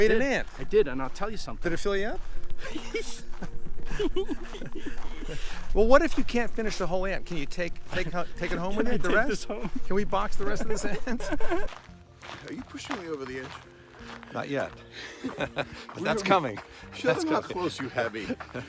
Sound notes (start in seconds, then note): 2.6 both laughing; 10.5 laughing